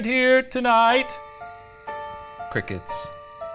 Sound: crickets chirping; creepy piano music

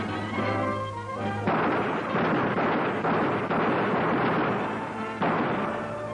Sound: gun fires

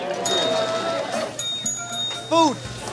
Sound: bell ringing

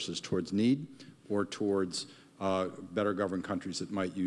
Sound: none

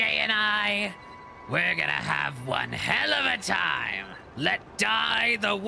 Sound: Green Goblin Voice

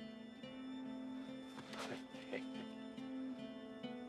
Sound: chuckles

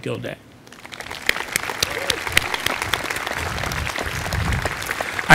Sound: applause

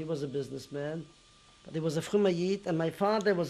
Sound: non-english

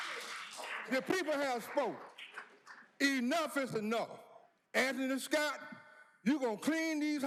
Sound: cheers and applause

